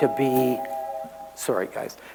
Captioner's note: train whistle alarm